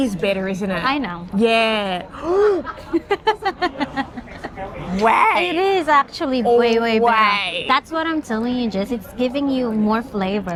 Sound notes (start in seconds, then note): 2.7 laughter